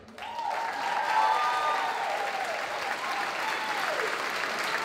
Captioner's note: applause